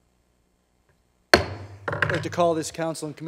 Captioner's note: bang